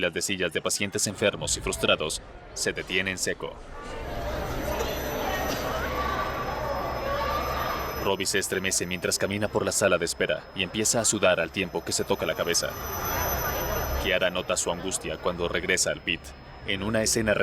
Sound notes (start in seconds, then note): 2.1 bullicio